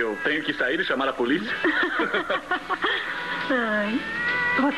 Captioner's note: chuckles